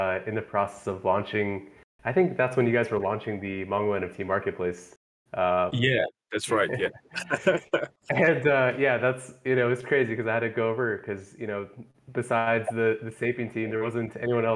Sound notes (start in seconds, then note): 6.4 laughing